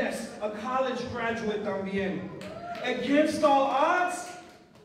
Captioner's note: non-english speech; non-english speech